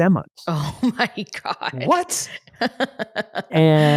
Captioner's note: laughs